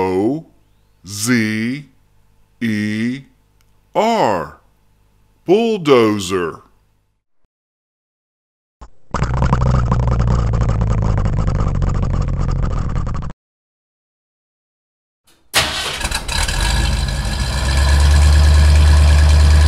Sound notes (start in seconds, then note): 9.0 engine rumbling